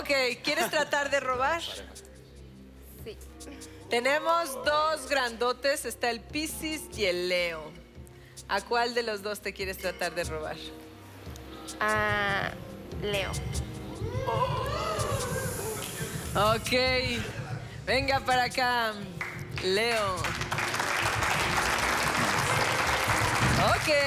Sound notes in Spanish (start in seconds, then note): 16.2 Exclamaciones; 23.8 Aplausos